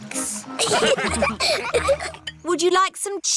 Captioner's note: laughter